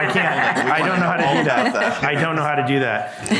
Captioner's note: group laughing